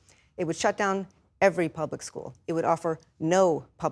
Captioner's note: none